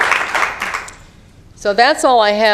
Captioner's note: applause